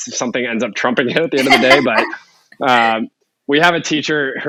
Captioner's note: laughing